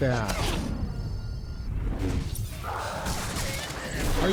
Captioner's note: gunshots